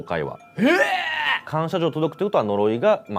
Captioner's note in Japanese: 叫び声